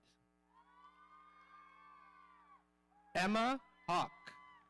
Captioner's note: audience cheering